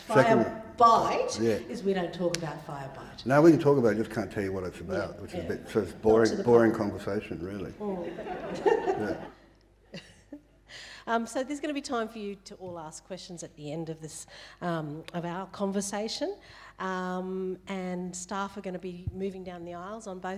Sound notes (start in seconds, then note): 7.8 audience laughing